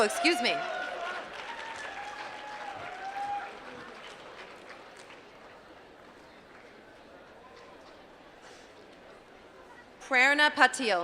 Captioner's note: applause